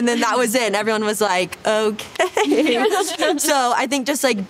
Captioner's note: everyone laughing